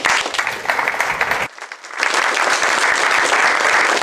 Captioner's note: applause